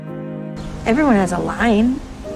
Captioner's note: voiceover